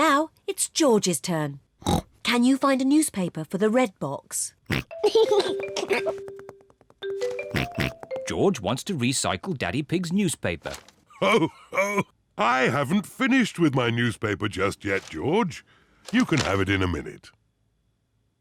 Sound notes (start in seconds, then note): 1.8 snorts; 4.7 snorts, giggles; 7.4 snorts; 11.1 laughs